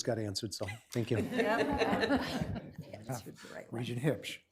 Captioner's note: laughter